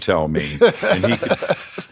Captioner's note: Jim O' The Church Guffaws